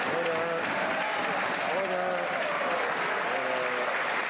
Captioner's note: some Applause